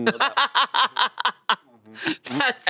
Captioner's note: laughs